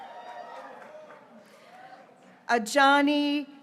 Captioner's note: graduates cheering